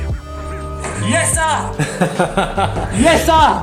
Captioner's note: laughs